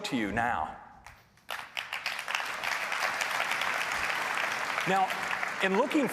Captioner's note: applause